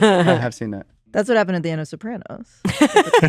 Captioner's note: laughs; laughs